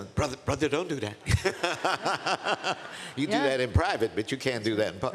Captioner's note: laughs